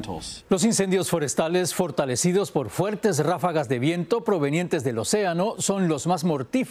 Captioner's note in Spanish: habla en ingés